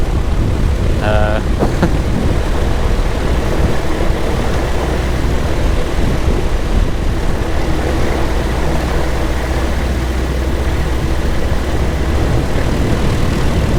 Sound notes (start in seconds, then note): 1.0 chuckling; 3.5 microlight engine roaring